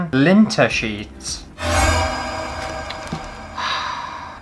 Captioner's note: alerting Noise!!